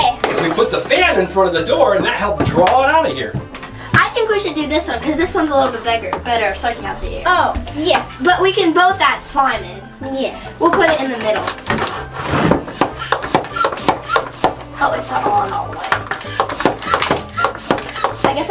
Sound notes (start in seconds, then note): 12.2 pumping noise; 16.2 pumping sound